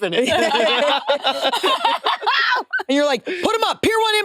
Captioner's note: participants laughing